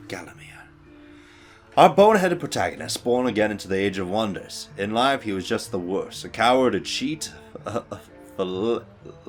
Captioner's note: stuggles with word